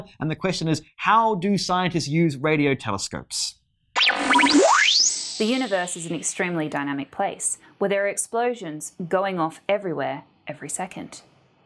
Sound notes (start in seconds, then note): 4.0 tape rewinding sound